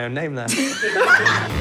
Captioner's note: laughter